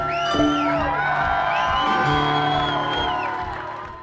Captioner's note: cheering